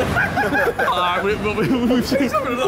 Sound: all laughing

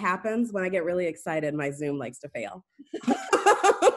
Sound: laughs

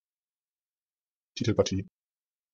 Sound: fast Pronunciation

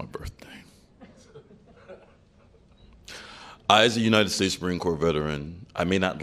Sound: laughter

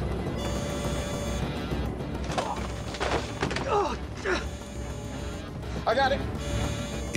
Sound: alarm sounds

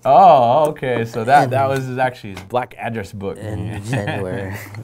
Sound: laughing

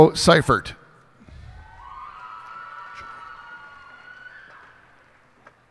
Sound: cheers and applause

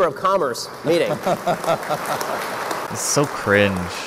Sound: auidence applauds

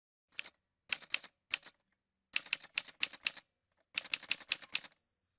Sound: typewriter sounds

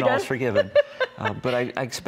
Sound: laughs

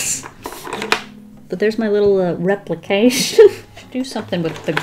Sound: laughs

